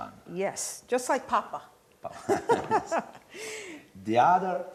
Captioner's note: laughter